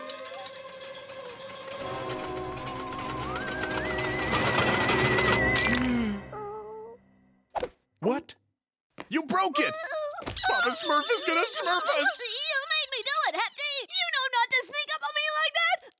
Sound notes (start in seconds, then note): 5.4 gasping